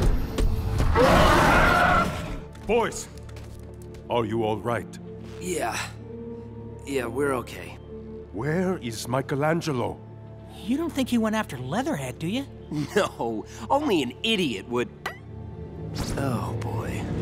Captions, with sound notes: [roaring] Boys, are you all right? Yeah. Yeah, we're okay. Where is Michelangelo? You don't think he went after Leatherhead, do you? No. Only an idiot would- Oh, boy.